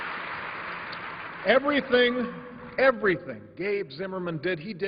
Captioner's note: applause